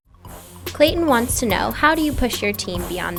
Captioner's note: voiceover